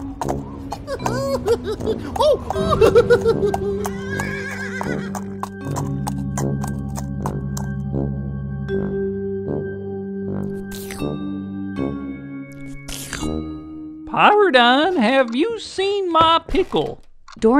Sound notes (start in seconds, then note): 0.0 horseshoes clopping; 4.0 horse neighing